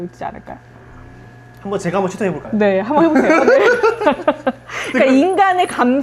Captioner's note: laughs